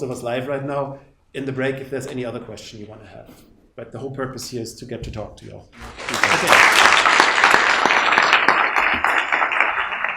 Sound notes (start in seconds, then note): 5.8 audience clapping